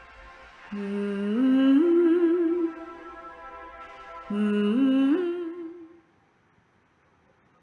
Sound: woman hums fragment of a melody

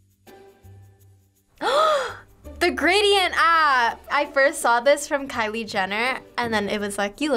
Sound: gasps

